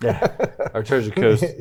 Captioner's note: all laughing